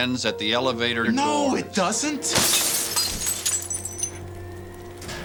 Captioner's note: glass shattering